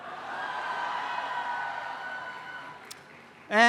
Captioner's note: cheering